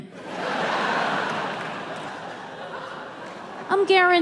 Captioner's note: audience laughs